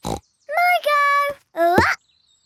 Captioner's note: snorts